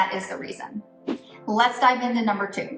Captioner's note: air whooshes